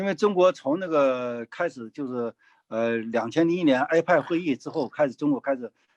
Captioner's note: speaking in foreign language